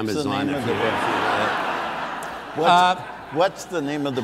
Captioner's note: audience laughs